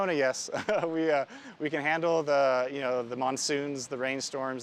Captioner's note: laughs